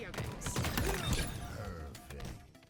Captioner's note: game sound effects